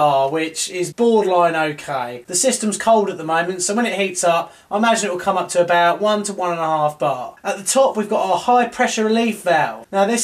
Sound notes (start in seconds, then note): none